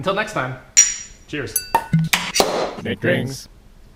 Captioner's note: glasses clink